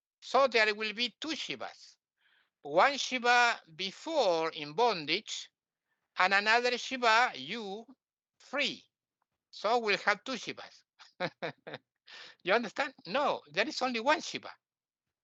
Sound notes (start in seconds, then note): 11.0 laughting